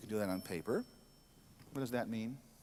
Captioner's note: bell ringing